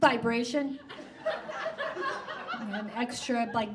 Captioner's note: audience laughs